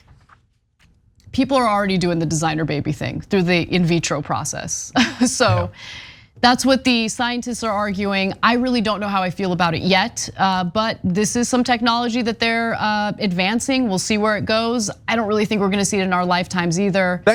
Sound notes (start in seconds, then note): 5.0 laugh